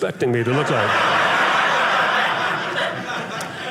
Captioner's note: audience laughing